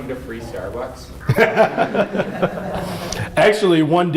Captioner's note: laughter